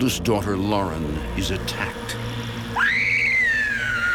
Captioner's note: screams